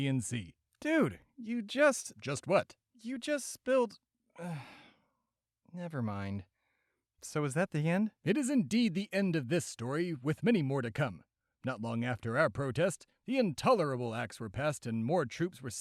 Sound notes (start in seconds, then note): 4.3 sigh